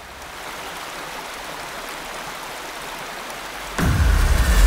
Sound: water trickling

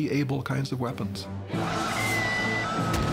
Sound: battlcry

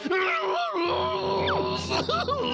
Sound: growling

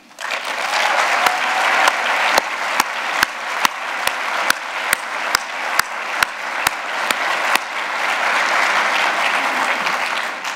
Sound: applause

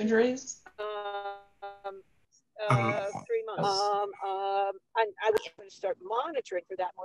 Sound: several voices

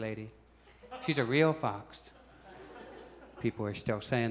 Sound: audience chuckles

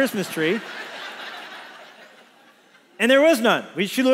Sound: congregation laughs

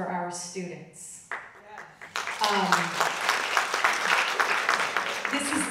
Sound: audience clapping

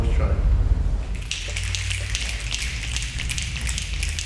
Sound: snapping

